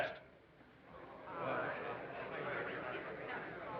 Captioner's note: people chattering